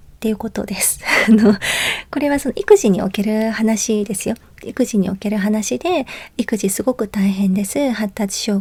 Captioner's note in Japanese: 笑い